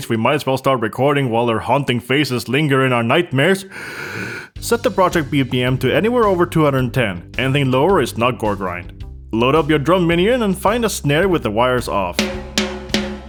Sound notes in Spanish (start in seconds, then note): 3.6 Inhala